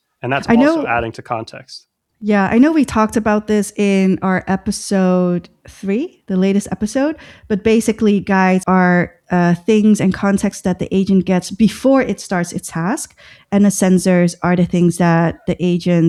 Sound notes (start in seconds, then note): 8.8 uh